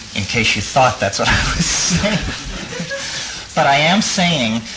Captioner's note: laughs and audience laughs